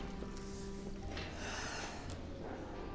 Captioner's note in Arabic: تنهد